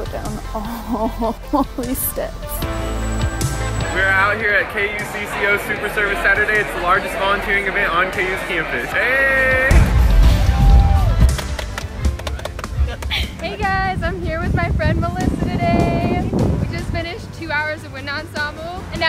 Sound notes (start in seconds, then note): 11.2 clapping